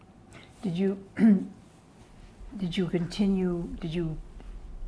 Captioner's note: clears throat